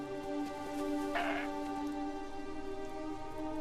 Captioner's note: bear grunts; suspenseful music